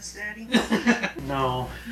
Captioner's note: laughing